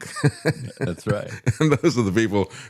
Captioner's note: laughs